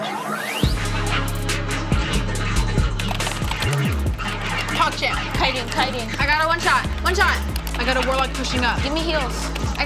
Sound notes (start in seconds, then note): 2.8 keyboard clicking